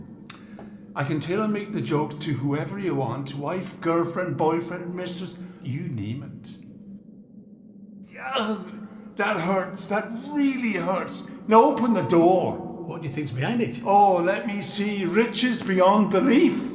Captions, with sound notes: I can tailor make the joke to whoever you want. Wife, girlfriend, boyfriend, misses, you name it. (groans) That hurts, that really hurts. Now open the door! - What do you think's behind it? - Oh, let me see. Riches beyond belief!